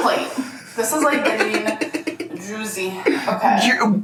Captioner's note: laughs